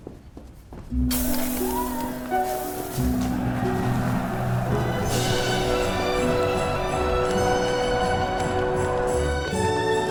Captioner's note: roar of chatter, cinematic music